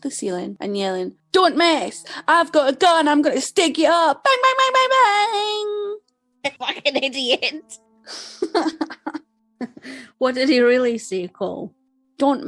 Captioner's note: laughs